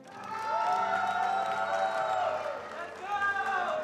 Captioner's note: attendees applauding